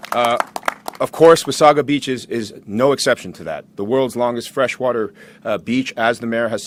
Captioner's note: applause